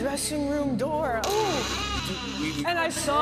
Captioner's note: door creaking